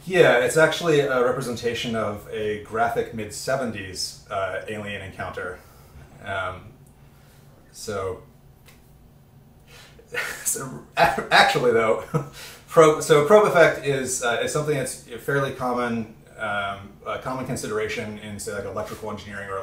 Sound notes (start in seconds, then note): 10.8 laughs